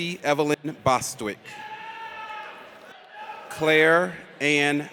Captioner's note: audience cheers